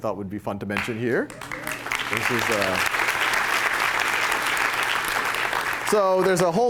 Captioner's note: applause